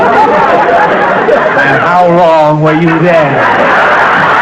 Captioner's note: imitating Albert; raucous laughter